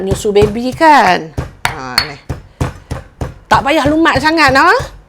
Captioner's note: pounding, pounding, pounding